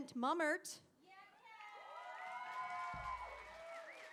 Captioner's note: cheering